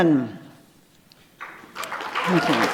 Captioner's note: applause